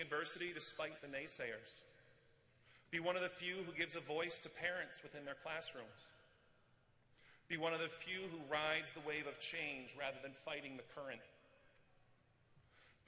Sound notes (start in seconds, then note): none